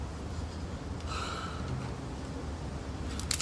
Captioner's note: soft sighing